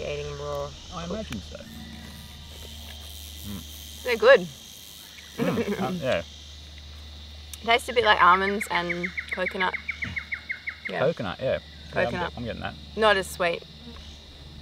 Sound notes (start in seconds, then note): 5.3 laughs